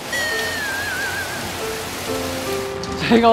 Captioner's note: rain gets heavier and heavier